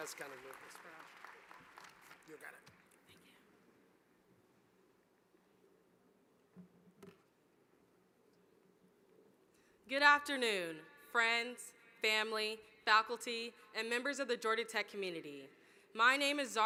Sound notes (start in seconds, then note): 0.0 applause